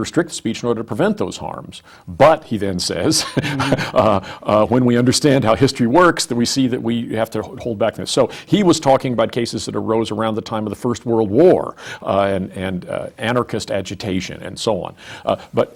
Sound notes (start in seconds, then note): 3.0 laughs